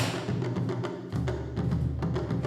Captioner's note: thumps